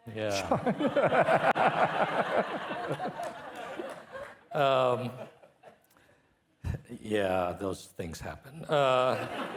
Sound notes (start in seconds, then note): 0.3 and participants laughing